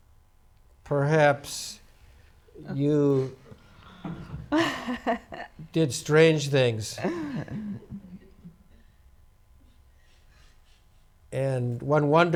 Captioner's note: laughs